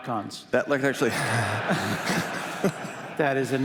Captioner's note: laughter